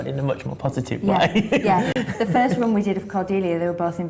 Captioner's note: laughing